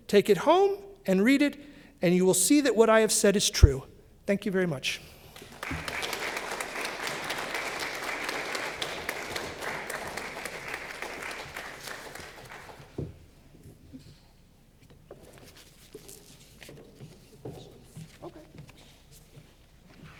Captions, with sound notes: Take it home and read it, and you will see that what I have said is true." Thank you very much. (applause)